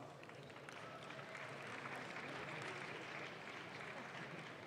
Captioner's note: audience claps